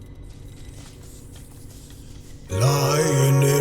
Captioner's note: pnumatics popping; mellow synth music